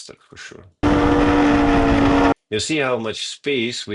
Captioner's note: tires screeching